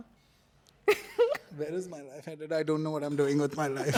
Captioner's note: laughs